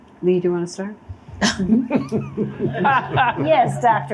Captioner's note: laughter